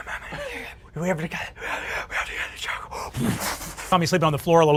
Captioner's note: more breaths